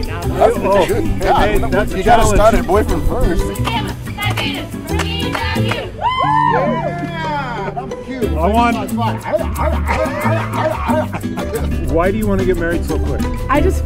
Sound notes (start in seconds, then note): 4.1 clapping; 5.8 cheering